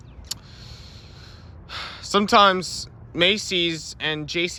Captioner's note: exhales